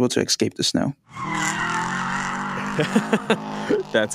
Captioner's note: tires screeching